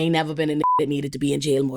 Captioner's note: beep